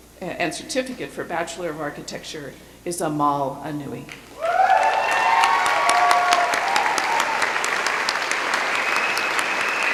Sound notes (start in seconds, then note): 4.4 cheering